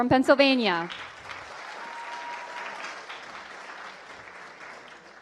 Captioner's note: applause